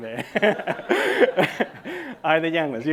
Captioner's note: laughing